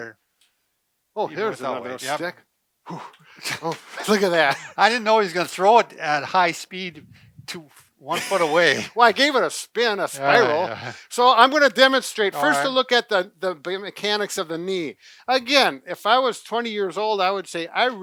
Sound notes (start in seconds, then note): 2.9 grunts; 3.4 both laugh; 8.1 both laugh